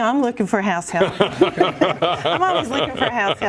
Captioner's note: laughter